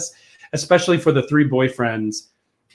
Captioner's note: none